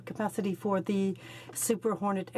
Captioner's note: speaking in french